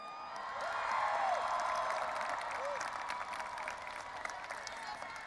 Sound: audience applauding and cheering

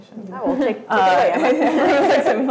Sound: all laughing

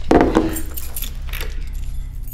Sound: keys jingling

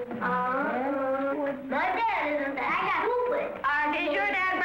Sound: children mumble

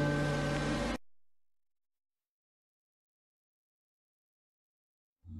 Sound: silence

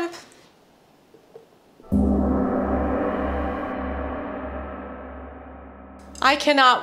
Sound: gong sound

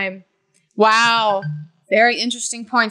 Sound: timer rings

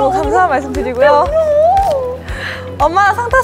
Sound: sobbing

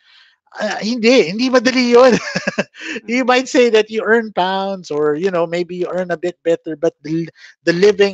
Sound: laughs

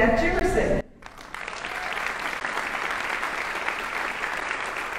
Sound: audience applauding

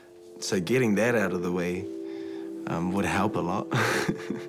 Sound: laughs

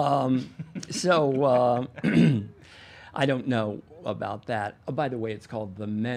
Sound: clears throat

